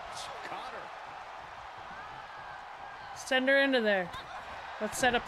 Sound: applause

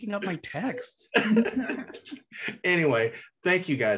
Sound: chuckles

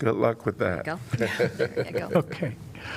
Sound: laughter

